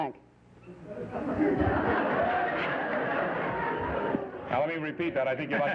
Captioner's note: laughter